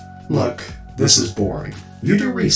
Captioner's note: none